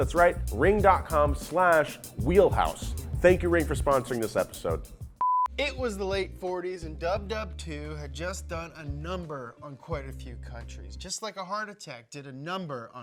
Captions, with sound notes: that's right, Ring.com/wheelhouse. Thank you Ring for sponsoring this episode. (beeping) - It was the late 40s, and WWII had just done a number on quite a few countries, just like a heart attack did a number